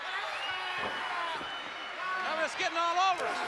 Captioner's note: Flair screaming